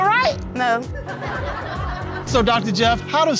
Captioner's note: audience laughs